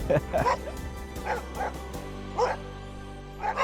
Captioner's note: dogs barking